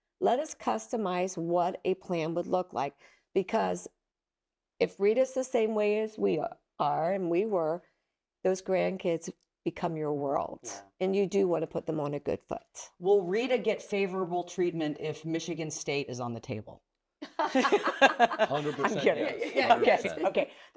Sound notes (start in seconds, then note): 17.2 group laughs